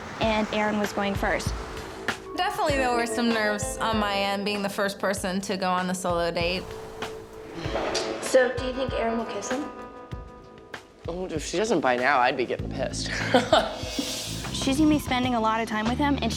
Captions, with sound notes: and Erin was going first. - Definitely there were some nerves on my end being the first person to go on a solo date. - So, do you think Erin will kiss him? - Well, if she doesn't by now, I'd be getting pissed. (laughs) - She's gonna be spending a lot of time with him